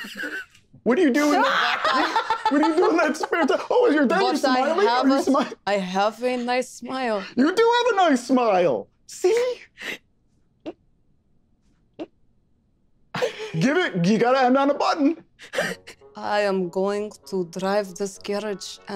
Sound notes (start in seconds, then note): 1.2 Isabella laughing